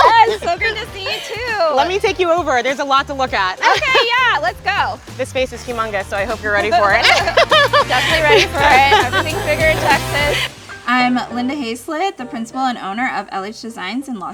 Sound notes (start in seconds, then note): 6.8 laughing cheerfully